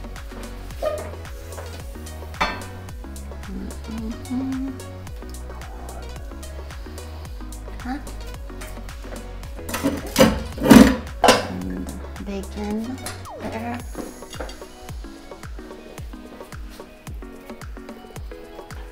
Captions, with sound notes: (Paris hums) (Pans clatter) Bacon. There.